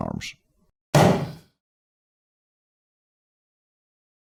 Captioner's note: explosive sound of burst balloon